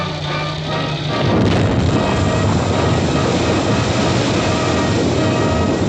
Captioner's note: explosion